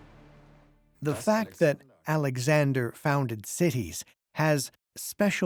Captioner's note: in German